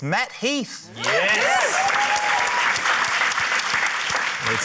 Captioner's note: cheering, applause